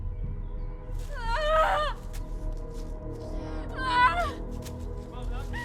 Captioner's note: Estrid screaming